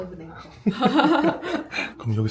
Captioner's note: laughs